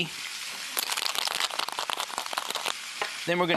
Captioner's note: ice clinking